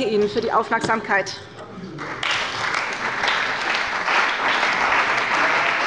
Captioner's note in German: Beifall bei der CDU und dem BÜNDNIS 90/DIE GRÜNEN